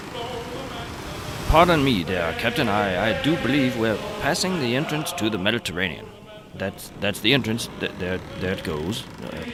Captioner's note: in British accent